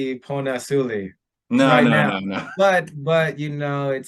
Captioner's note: they chuckle